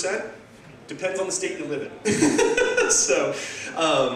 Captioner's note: laugh